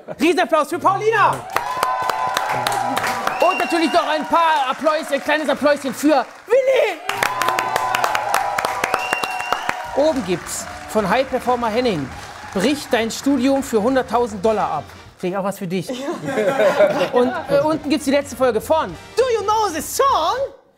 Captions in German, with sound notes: Riesenapplaus für Paulina! (Jubel, Applaus) Und natürlich noch ein kleines Appläuschen für Willy! (Jubel, Applaus) Oben gibt's von highperformer.henning: Brich dein Studium für 100.000 Dollar ab. Vielleicht auch was für dich. (Lachen) Und unten gibt's die letzte Folge von "Do you know the Song?"